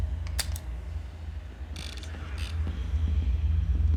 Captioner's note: camera clicking